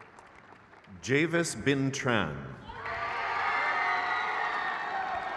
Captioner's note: crowd cheers